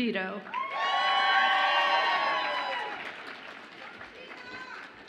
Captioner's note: audience applauds and cheers